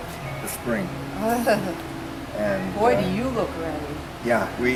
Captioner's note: laughs